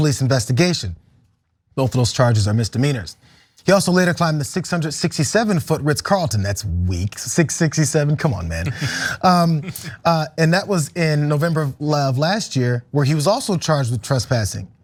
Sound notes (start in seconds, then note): 8.3 laugh